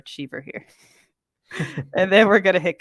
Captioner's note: both chuckle